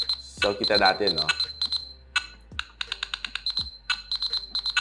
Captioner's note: playing ringtones